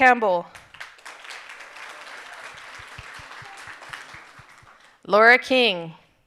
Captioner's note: audience applauding and cheering